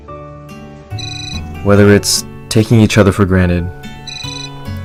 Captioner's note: cellphone continues to ring